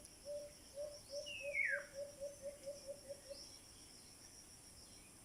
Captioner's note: sound of bird